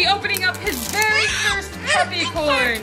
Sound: whining

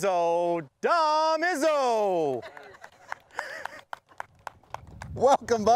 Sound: applause

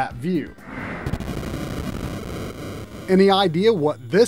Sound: game audio

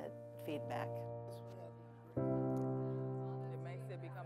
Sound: quiet chatter

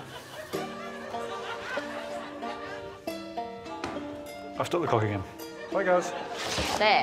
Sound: audience laughing; pipe clonking on table

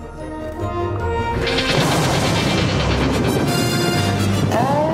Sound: heroic music; exciting music; loud boom

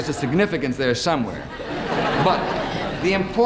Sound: audience laughing

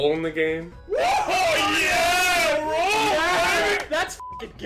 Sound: crowd; beep

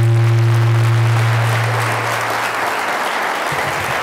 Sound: applause

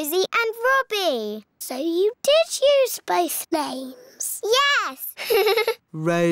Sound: laughs

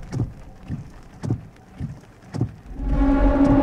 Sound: window wipers swishing; suspensful music; ominous music

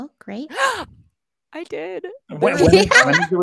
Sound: gasps

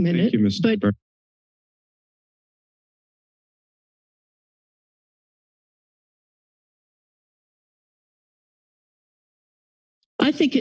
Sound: silence

